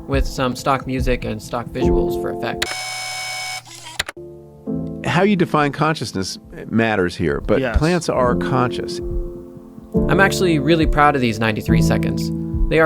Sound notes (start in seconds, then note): 2.6 alarm beeps; 3.3 keyboard click